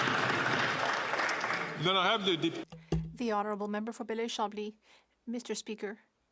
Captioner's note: some Applause